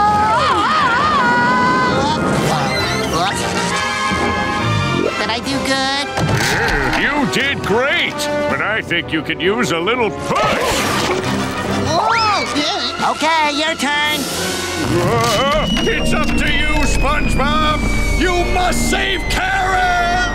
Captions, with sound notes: [screaming] Did I do good? Hey, you did great! But I think you could use a little push! [yelling] Okay, your turn! Whoa! It's up to you SpongeBob! You must save Karen!